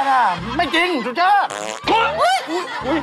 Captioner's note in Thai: ผายลม